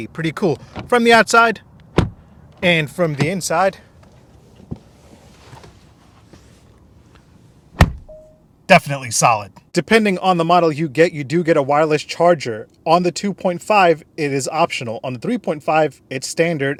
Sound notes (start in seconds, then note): 7.7 car door slam